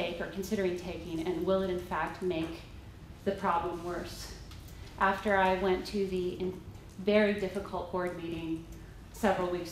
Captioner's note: none